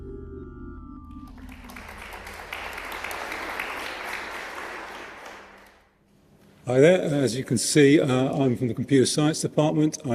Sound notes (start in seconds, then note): 1.2 applause